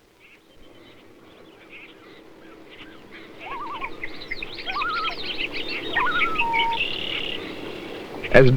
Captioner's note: nature sounds, loon wail